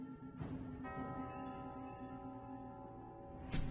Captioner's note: supernatural bell tolling